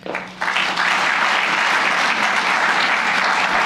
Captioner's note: applause